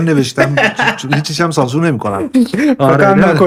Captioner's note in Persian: خنده